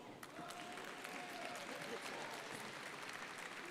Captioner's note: crowd applauding